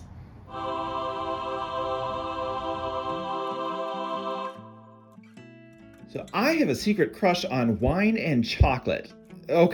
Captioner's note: angelic sound clip